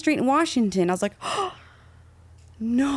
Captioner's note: gasping